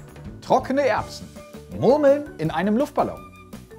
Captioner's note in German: none